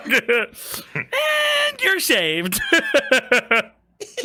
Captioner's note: laughs